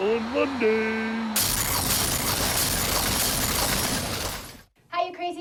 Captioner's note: explosion noise